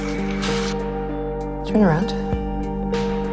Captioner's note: voiceover